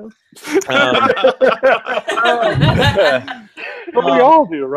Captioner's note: laughing